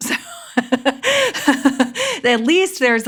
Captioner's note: laughs